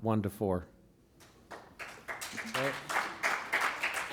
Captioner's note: applause